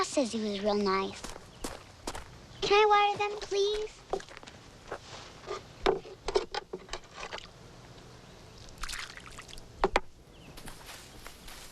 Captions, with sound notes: Ma says he was real nice. Can I water them? Please. (ladle clacking) (water sloshes)